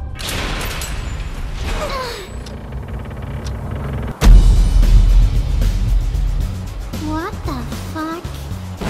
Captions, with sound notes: *grunt* *battle music* What the fuck...